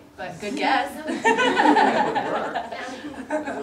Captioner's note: audience laughter